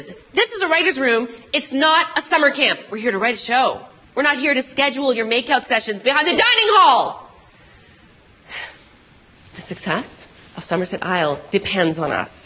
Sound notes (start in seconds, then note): 8.5 sighs